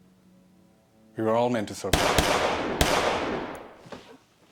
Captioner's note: gun firing